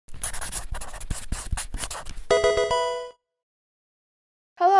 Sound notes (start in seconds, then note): 0.1 scribble sound; 2.3 video game music